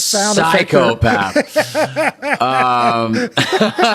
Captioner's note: Gilligan laughing